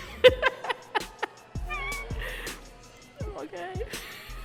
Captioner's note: laughing